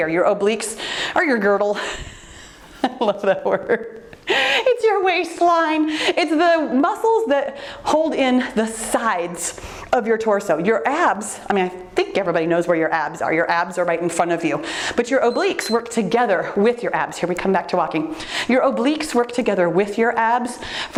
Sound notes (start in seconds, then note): 1.8 laughs; 15.2 timer beeps